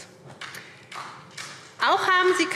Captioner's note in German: Vereinzelter Beifall SPD